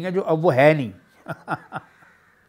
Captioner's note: laughs